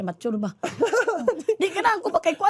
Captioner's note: chuckles